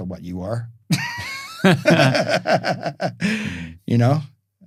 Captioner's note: both laughing